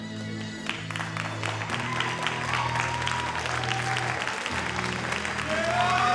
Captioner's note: audience cheers and applauds